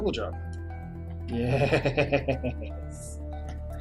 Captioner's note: evil laugh